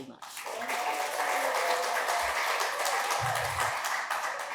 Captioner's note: audience applauding